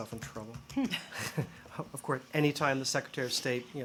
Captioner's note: laughter